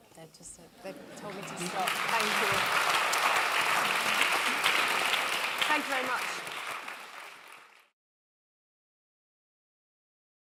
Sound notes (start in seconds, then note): 1.2 clapping